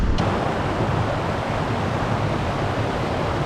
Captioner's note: loud sound of water